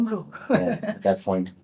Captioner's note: laughs